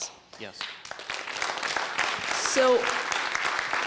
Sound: laughter/applause

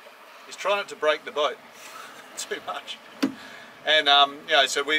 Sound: chuckles

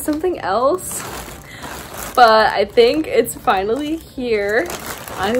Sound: package crackling

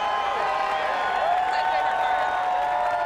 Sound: crowd cheering

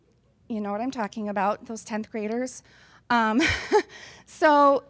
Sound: laughs

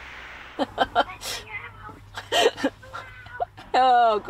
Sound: laughs

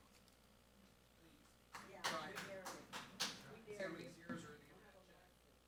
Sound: audience chattering

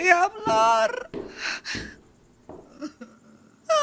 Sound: footsteps

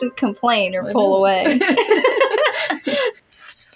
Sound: both Laugh

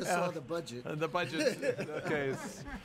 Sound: chuckling

